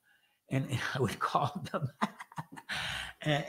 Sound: laughs

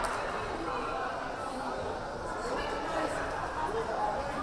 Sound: crowd chattering

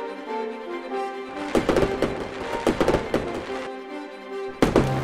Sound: fireworks sounds

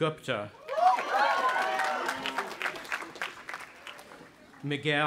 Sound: audience applauding and cheering

